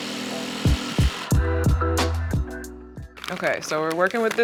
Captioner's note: mellow music; jigsaw whirring